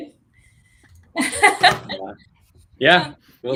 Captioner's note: laughs